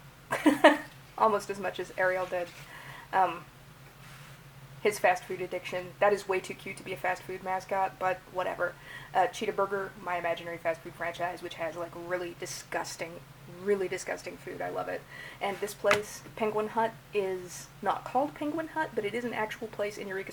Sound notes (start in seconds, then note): 0.4 laughs